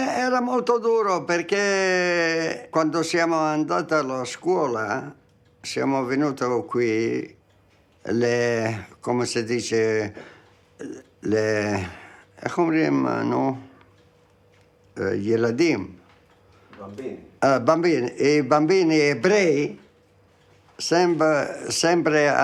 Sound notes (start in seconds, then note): 17.1 assistant speaks in foreign language